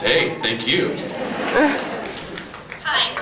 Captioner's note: scattered laughs